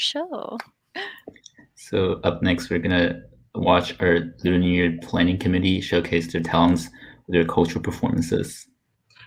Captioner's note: claps